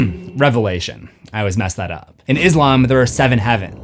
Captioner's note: clears throat